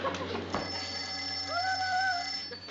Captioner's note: phone ringing